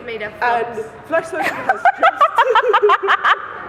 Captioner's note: laughing